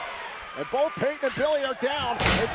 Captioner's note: crowd cheering